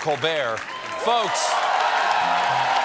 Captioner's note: cheers and applause